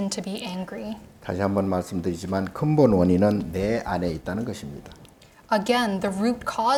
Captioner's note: speaking Korean